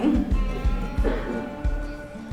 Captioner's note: student coughs; chuckles; students chattering